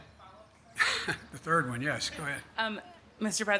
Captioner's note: laughs